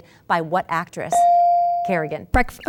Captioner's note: ding